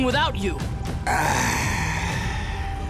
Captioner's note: sighing